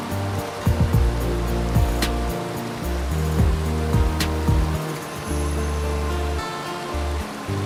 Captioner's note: waterfall splashing sounds